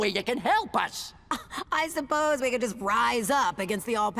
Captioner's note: chuckles